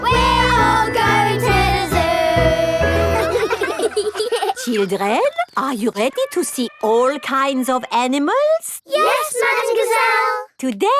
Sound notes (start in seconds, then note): 3.8 children laughing